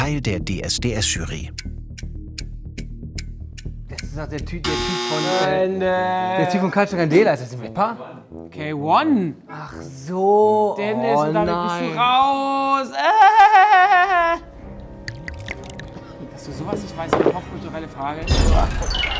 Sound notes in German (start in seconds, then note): 13.0 Übertriebenes Auslachen; 14.2 Bedrohliche Musik